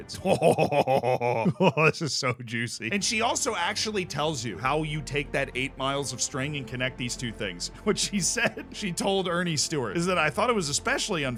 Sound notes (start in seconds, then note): 0.1 chuckles